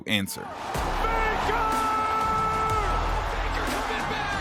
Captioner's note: yelling